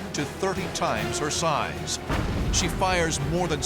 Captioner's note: explosion